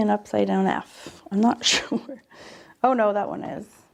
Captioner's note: chuckles